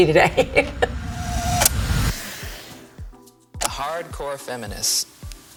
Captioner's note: laughing